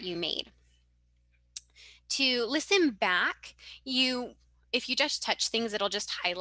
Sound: audio recording playback

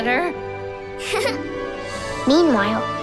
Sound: giggling

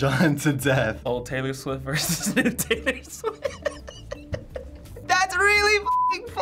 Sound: laughing

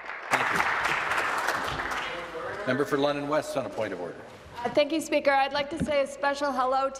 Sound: applause

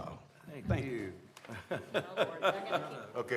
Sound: laughter

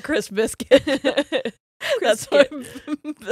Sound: both laughing

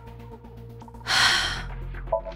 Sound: sighs

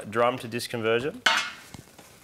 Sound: metallic clattering

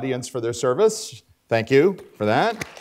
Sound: applause

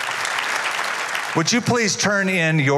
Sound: applause

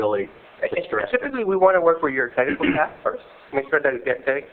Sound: cough

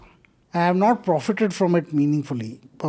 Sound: speaks in Hindi

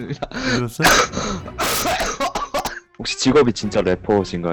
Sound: coughs from laughing lol

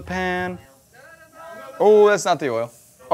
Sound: crew members shouting

